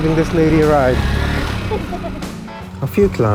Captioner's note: laughing